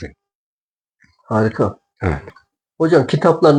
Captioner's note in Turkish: boğazını temizler